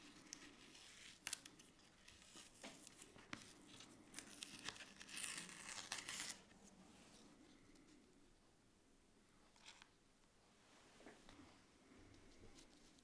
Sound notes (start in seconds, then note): 4.0 paper layer crunching